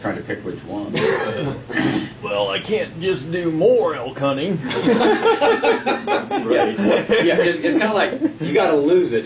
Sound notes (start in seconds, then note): 4.7 laughing